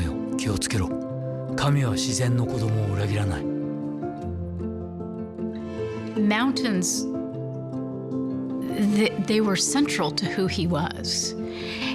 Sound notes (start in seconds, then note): 2.7 voice of speaking in Japanese